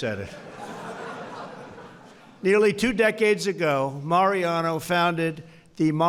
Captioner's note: laughter